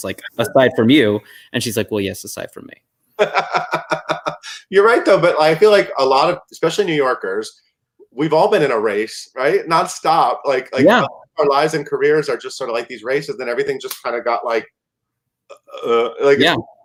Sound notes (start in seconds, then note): 3.2 chuckle